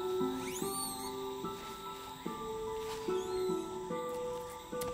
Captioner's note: monkeys chittering